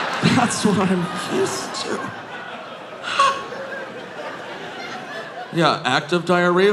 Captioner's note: audience laughing